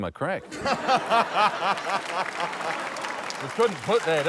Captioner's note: laughter